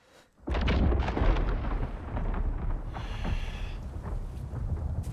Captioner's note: thunder